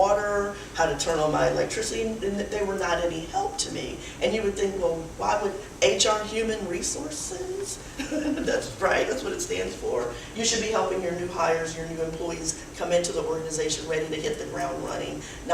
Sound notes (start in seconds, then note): 7.9 laughs